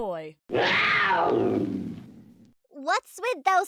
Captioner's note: cougar growling